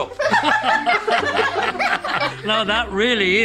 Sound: laughter

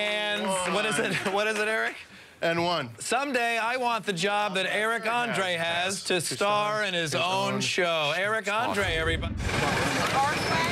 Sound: applause

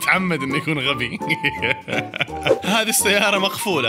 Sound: laughter

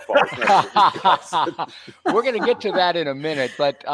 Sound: laughing

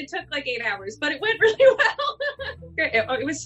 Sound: laughing

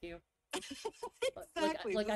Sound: laughs

